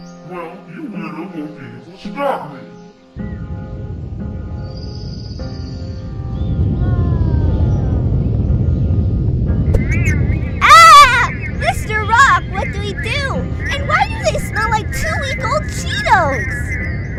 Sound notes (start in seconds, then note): 3.4 royalty Free Earthquake noises; 11.0 robot cheeto thing noises